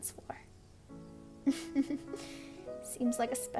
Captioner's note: giggles